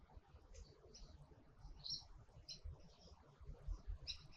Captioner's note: birds chirping